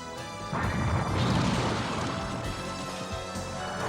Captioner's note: explodes